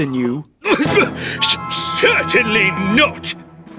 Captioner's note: spluttering